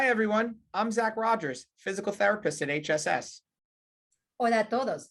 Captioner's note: hablando en inglés